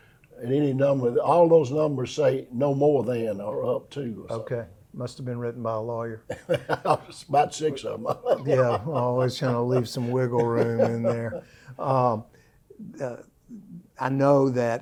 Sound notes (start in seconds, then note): 6.3 laughs